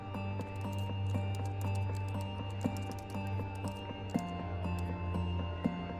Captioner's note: keyboard keys clacking